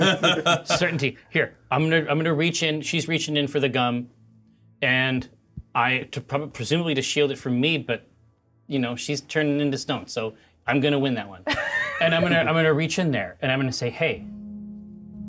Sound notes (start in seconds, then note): 11.4 co-hosts laughing